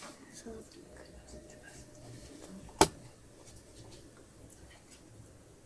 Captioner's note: whispering; silence; whispering; silence